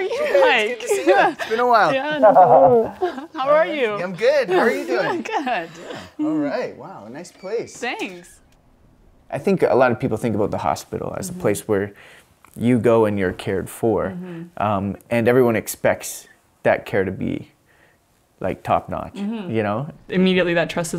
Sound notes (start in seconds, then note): 3.6 laugh